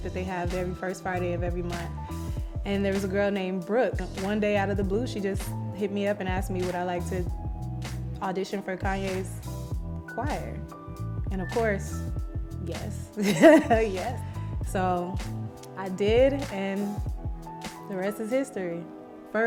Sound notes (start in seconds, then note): 13.2 laughs